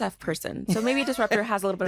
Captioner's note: laughs